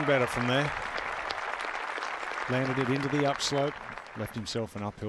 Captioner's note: cheers and applause